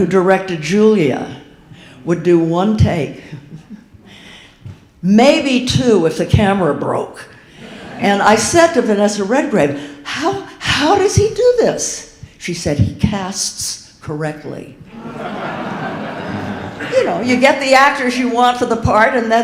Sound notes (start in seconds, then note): 14.9 audience laughing